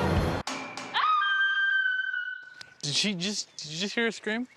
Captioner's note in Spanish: screams